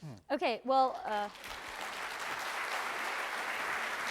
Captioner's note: clapping